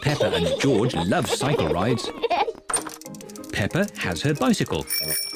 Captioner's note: both giggle; rings bell